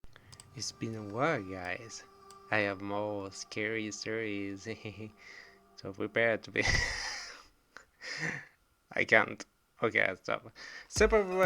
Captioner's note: laughs